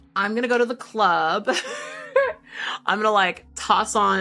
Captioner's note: laughing